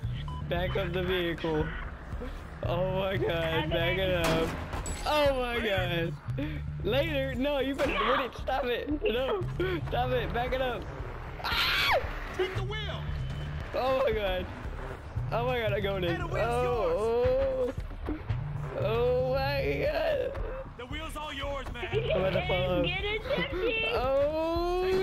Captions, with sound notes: back up the vehicle, oh my god back it up oh my god, later? no you better not hit it, stop it back it up ahhhhhhhhhhhhhhh (weird scream) oh my god im going in, ohhhh oohhhh ohhhhhhhhh my god im about to fall off, oooooooooohhhhhhhhhhhhhhhhh, duhhh